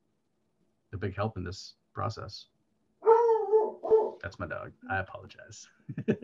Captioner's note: dog barking